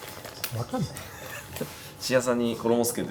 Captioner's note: laughs